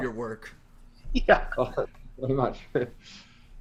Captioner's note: giggling